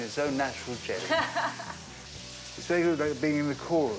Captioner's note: April laughs